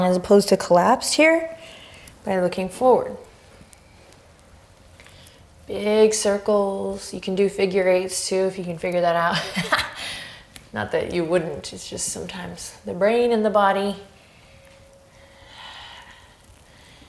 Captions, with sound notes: as opposed to collapse, here, by looking forward. Big circles; you can do figure eights, too, if you can figure that out. (laughs) Not that you wouldn't, it's just sometimes the brain and the body... (deep breaths)